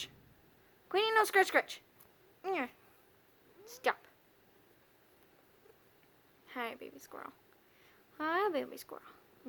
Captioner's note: Queenie purrs